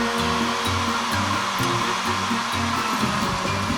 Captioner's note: whirring